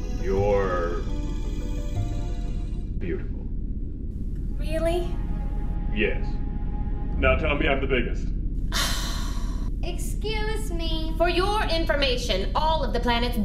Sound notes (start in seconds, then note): 8.8 sighing